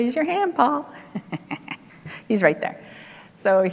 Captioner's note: laughs